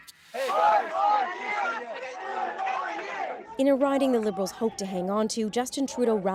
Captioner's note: chanting